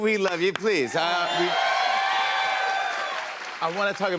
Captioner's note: cheers and applause